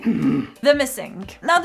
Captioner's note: Americ grunting